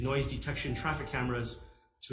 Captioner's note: computer notification sounds